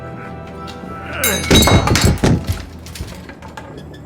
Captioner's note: Dell groaning; vampire grunts; Dell thuds